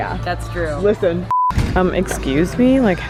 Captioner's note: beeping